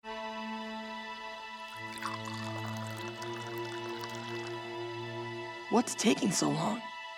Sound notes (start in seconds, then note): 0.1 intriguing music; 1.6 tea pouring